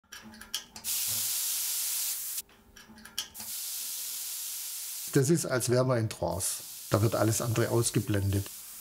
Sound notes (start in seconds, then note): 3.4 hissing